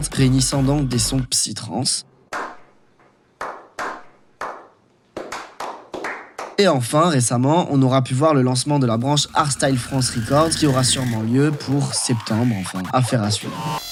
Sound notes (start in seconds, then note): 3.6 clap meme playing